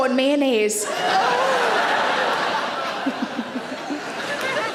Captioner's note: audience laughing